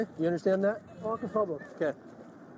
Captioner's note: speaking Arabic